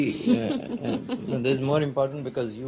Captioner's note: laughter